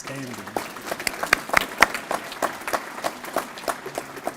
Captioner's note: applause